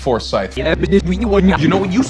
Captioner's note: speaks backwards